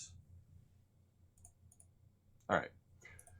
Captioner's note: mouse clicking